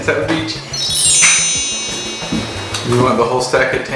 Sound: sparkle sound effect

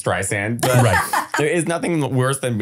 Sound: laughing

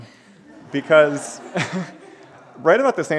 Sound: laughter

